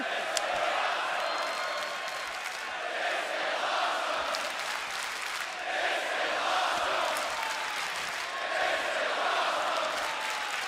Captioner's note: crowd cheering